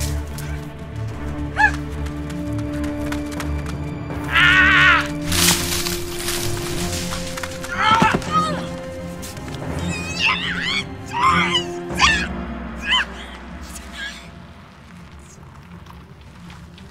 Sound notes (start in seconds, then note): 0.2 suspenseful music; 4.4 Mathieu grunts; 9.8 Julia screaming; 12.6 ominous music